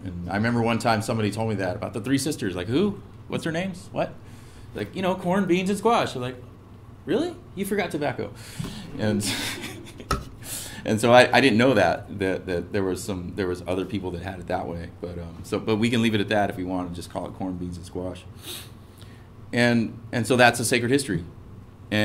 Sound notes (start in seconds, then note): 9.2 laugh